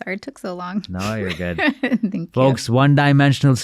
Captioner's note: laughing